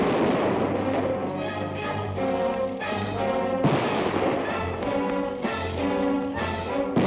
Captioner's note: suspenseful orchestral music; gun firing